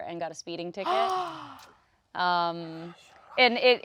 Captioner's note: gasps